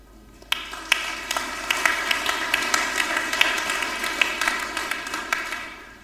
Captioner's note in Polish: oklaski